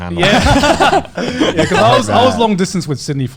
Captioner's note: laughing